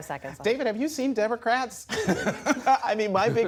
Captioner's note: laughter